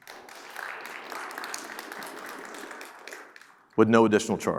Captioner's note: audience clapping